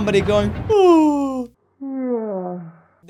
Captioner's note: yawn